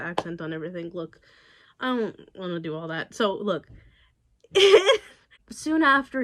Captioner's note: laughs